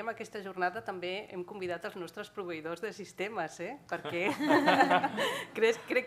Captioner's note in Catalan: riures